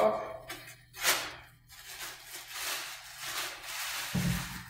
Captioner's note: plastic crinkling